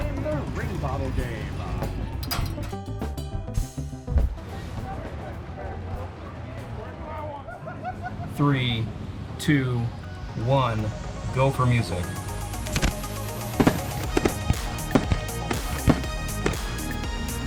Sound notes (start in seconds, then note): 2.3 light upbeat music; 4.4 people chattering; 7.4 visitor laughing; 12.5 upbeat music; 12.6 fireworks popping